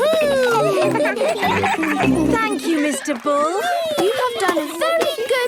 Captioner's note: giggling